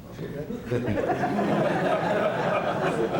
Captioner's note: laughter